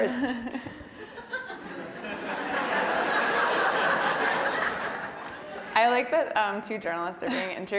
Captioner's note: laugh